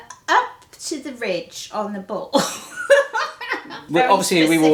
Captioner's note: laughing